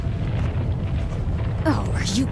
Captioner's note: ground rumbling